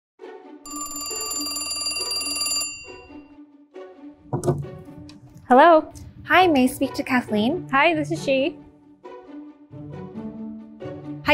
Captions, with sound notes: (phone ringing) - Hello? - Hi, may I speak to Kathleen? - Hi, this is she. (gentle music)